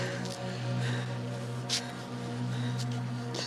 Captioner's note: Helen breathes heavily